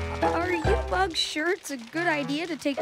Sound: croak

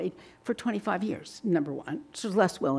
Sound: none

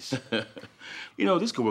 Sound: Gates laughs

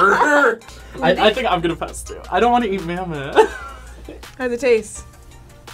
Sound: laughs; laughs

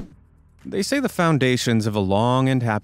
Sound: swoosh

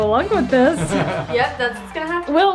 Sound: laughs

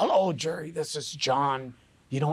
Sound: gruff voice

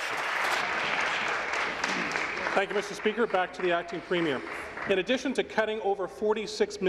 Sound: applause

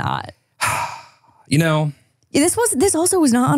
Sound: sighs

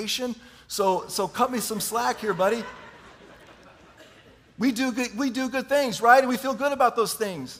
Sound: chuckling

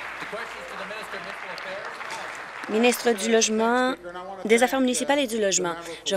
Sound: applause

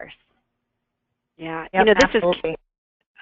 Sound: voiceover

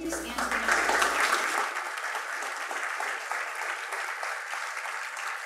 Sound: attendees applauding

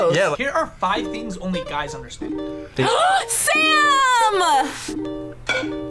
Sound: gasps

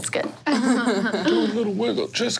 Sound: players laughing

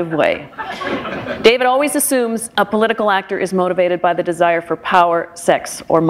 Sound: laughter

